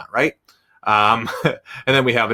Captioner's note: chuckles